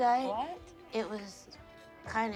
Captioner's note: laughs